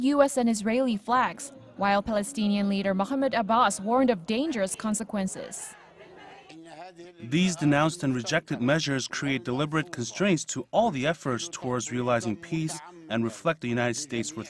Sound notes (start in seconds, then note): 5.7 Arabic